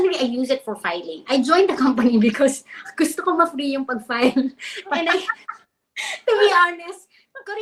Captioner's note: speaks in Filipino